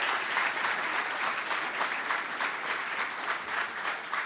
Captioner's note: cheering & Applause